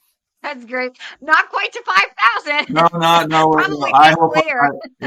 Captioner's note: laughs